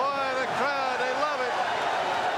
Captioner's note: crowd cheering